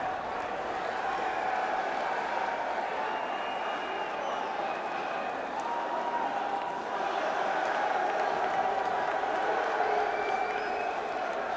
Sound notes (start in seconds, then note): 1.7 cheers